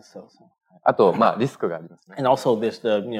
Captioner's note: speaking japanese